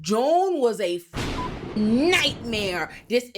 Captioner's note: beep